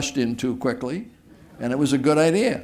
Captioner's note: laughter